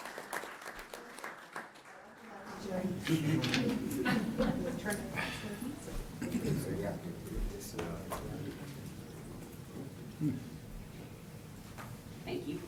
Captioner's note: applause